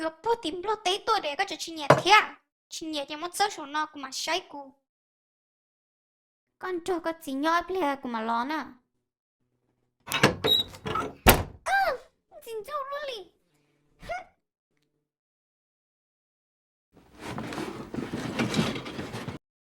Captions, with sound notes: I bought this all the way from Laos, how can you not like it? Regardless, just leave it up here. I'll look at it. You stay with your dad. I'll be back later. Ugh! How annoying! Hmph [Shuffling Noises]